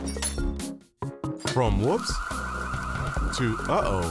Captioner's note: fire alarm blaring